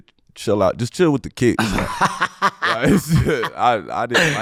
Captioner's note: laughing